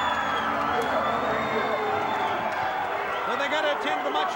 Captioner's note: crowd roaring